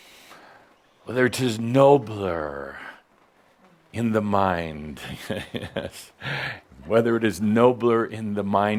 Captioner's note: chuckling